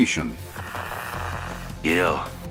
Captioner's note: Static